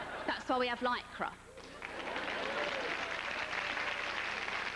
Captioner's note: applause